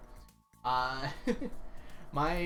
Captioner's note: laughs